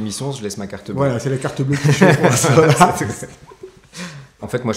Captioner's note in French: rires